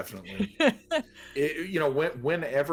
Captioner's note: laughs